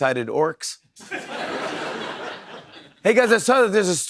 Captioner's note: laughter